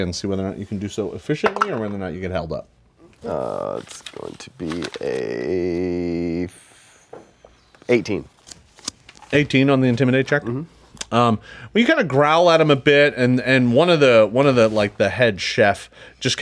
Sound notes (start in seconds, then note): 3.7 dice clatters